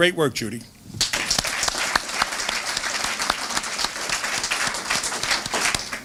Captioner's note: applause